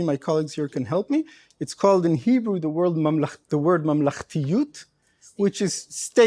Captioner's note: speaking hebrew